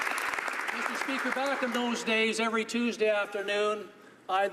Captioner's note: applause